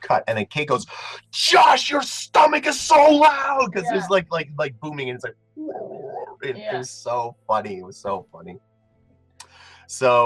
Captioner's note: stomach noise